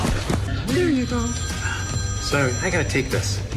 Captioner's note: phone ringing